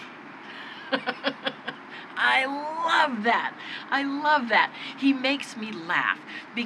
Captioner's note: laughs